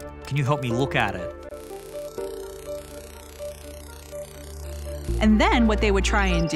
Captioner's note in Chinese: 失真的嘶嘶聲